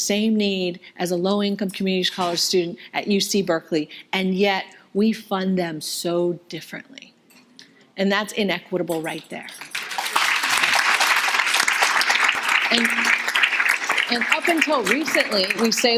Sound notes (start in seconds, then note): 9.7 audience applauding